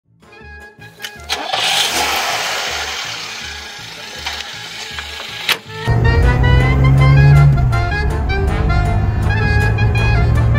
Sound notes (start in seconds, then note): 1.0 engine revving